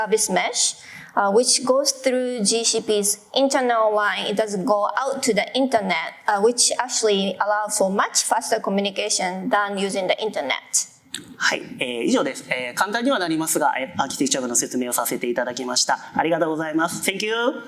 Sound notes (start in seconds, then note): 12.3 speaking japanese